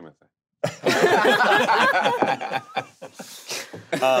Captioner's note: group laughing